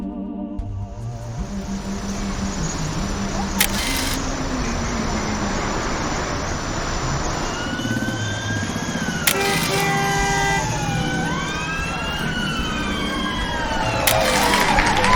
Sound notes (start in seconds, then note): 0.2 ghoulish music; 1.6 crowd of people; 1.9 ghoulish music; 3.5 camera click; 10.2 camera click; 10.5 police sirens, heavy traffic, car horns